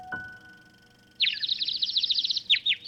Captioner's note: birds chirping